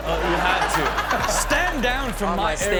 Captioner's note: everyone laughs